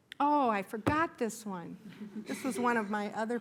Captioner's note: laughter